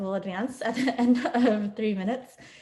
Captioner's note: laughing